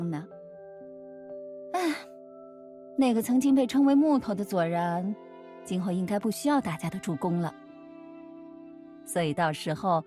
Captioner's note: sigh